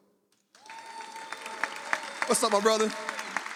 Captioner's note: audience applauds